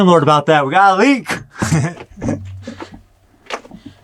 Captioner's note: laughing